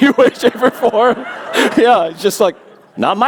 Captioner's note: laughter